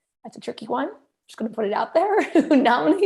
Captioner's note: laughter